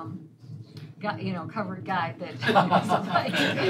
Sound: laughter

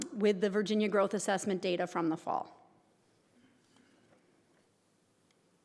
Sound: none

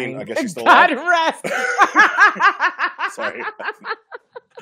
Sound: laughing

